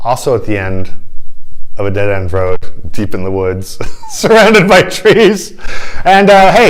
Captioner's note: laughter